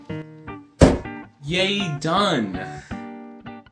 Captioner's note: slam